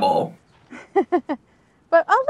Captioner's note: chuckles